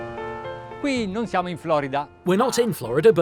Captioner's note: speaking in foreign language